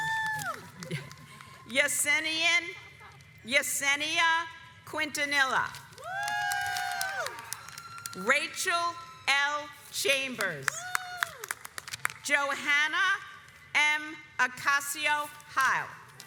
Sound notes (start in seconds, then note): 0.0 audience applauds; 6.0 audience cheers; 10.7 audience cheers